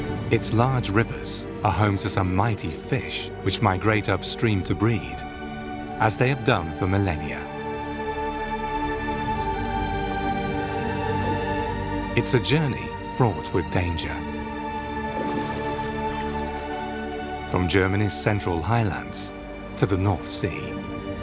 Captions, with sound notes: Its large rivers are home to some might fish which migrate upstream to breed, as they have done for millennia. (gentle music) It's a journey fraught with danger, (water sloshes) (gentle music) from Germany's central highlands to the North Sea,